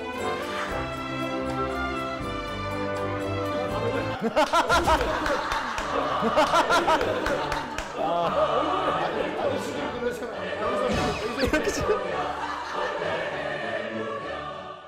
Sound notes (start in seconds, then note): 3.9 finally bursted into laughter